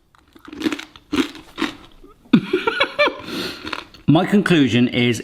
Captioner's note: pasta crunching loudly